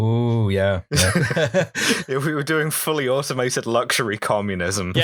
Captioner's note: laughter